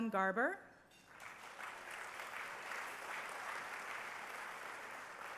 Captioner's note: applause